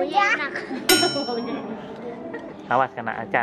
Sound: laugh

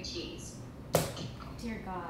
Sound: butter slaps counter

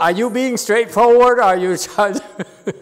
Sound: laughs

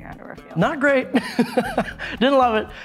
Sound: laughing

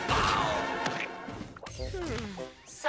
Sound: sighing

